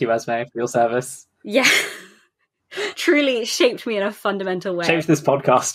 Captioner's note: laughing